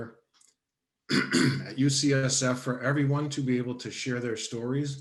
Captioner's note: coughs